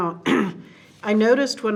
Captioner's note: clears throat